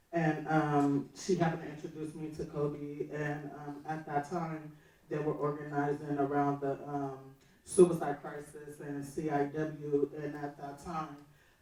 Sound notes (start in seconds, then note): none